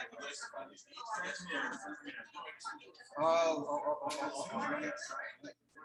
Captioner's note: people chattering indistinctly